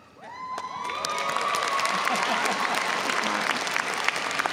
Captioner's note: audience applauding